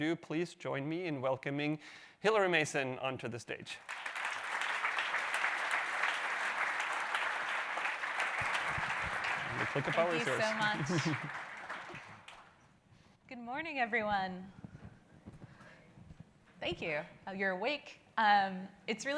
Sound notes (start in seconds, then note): 3.7 audience clapping; 9.5 he laughs